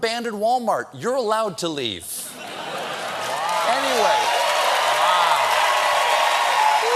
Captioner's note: cheers and applause